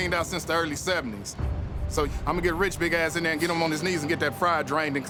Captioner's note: none